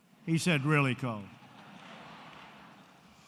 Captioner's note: laughter